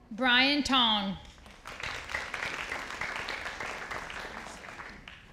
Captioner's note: audience applauding